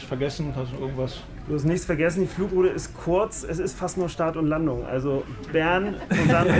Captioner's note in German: Lachen